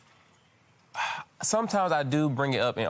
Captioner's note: sighs